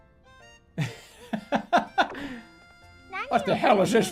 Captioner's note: laughing